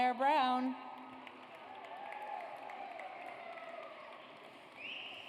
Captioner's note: audience applauds